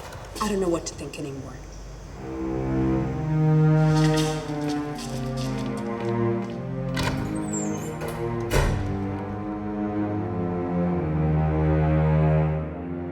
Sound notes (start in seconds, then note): 2.7 ominous music; 8.3 door slams